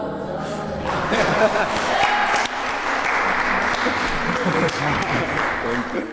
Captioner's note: applause; Keiynan laughing